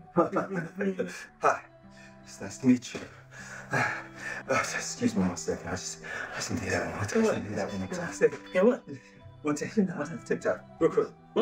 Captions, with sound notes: [They laugh] Hi nice to meet you. [Cory gasps] Excuse me for one second, I just.. I need to hear that one time... Say what? Hear that one time. Hear what? For tik tok, real quick...